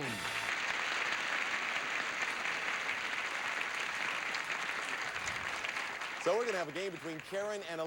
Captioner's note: audience applauding